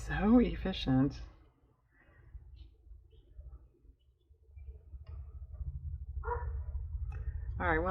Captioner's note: dog barks